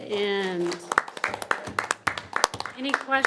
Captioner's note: audience applauding